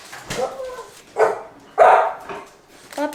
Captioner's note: dog whines and barks